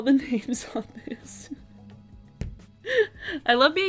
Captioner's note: laughing